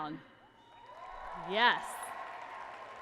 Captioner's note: applause and cheering